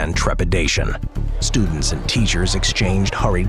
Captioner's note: people chattering